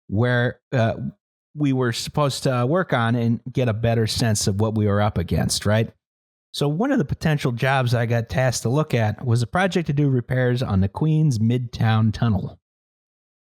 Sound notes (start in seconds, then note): none